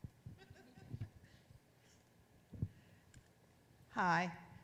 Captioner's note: audience laughs